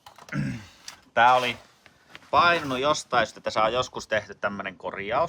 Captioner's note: clearing the throat